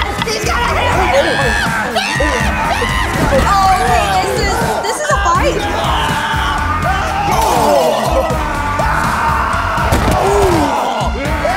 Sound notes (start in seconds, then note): 5.7 screaming